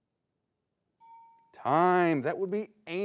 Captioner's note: bell dings